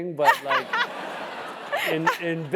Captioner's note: laugh